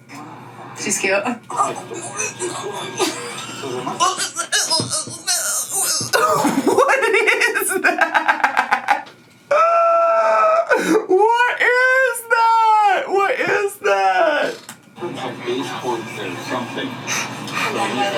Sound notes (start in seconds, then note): 1.5 grunting; 9.8 laughs